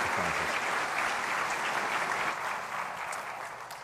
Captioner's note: applause